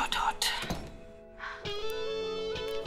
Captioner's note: Door closes